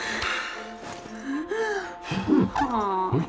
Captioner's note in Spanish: gimiendo